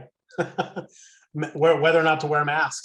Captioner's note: laughs